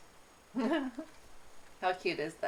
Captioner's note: giggles